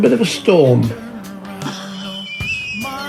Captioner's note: running out of air; wheeze laughs!